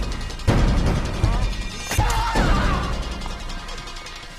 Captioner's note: black screams